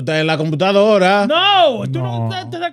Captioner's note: speaking In Foreign Language